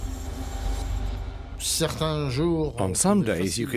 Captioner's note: speaking French